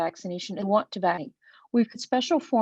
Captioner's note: web-call distortion